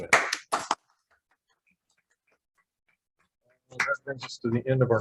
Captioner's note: hands clapping